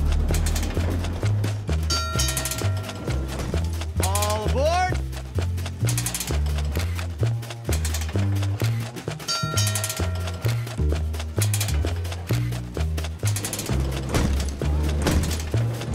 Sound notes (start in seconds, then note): 1.8 bell ringing